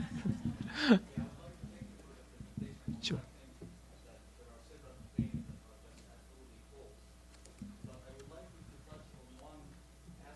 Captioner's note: silence